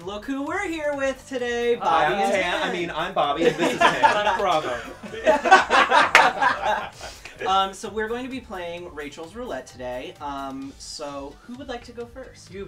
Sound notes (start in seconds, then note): 5.4 laughter